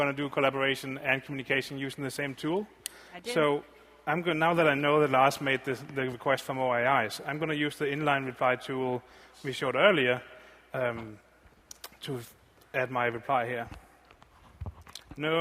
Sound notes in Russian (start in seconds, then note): none